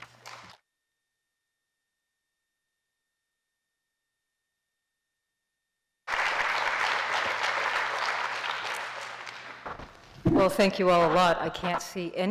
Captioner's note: applause